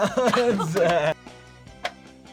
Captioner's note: both laugh